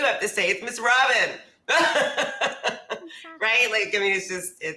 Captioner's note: laughs